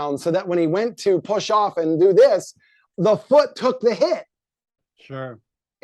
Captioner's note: none